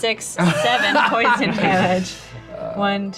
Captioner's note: all laugh